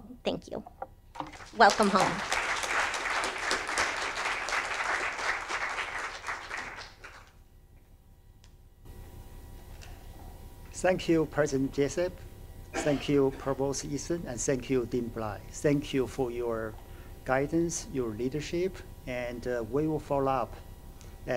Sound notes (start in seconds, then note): 2.7 audience applauding